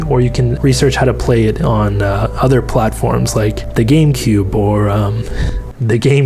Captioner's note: laughing